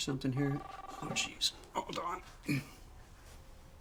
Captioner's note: phone ringing